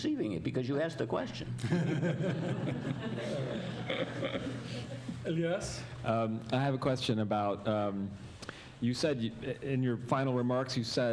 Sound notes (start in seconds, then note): 1.6 chuckling